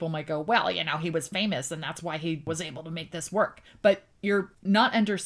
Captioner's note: crotchety voice